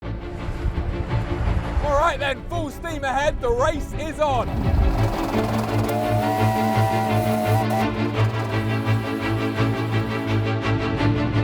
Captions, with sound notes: All right, then. Full steam ahead. The race is on. (Train whistle blows)